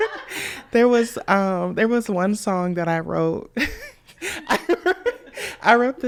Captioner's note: all laughing; laughs